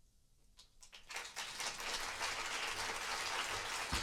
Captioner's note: applause